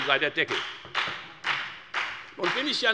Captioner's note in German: Beifall bei der FDP